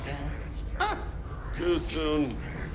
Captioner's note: scoffs